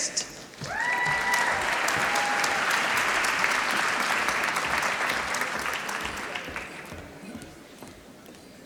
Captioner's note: applause